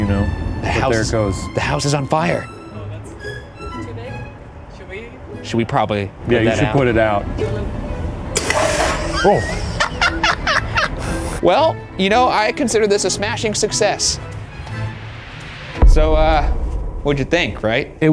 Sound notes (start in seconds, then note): 8.6 extinguisher whooshes; 9.1 cackles; 14.6 whimsical music